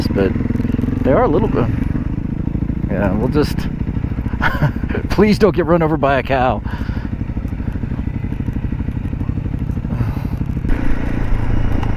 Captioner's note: laughter